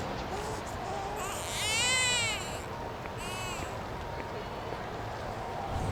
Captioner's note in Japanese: 泣き声